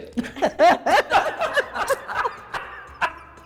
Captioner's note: laughter